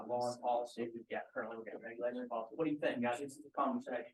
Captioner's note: group noise